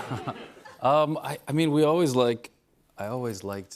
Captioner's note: chuckles